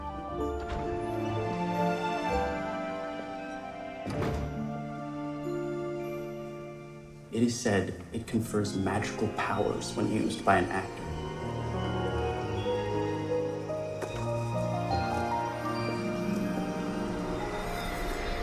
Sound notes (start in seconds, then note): 1.6 door opens and closes; 13.2 mystical music